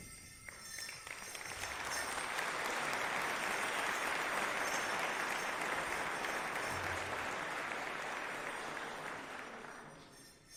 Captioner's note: applause